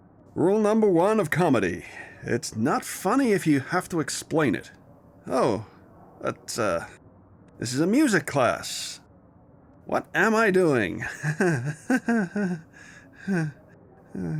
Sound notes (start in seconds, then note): 11.0 nervous laughter intensifies